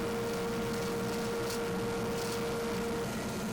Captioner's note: lathe whirring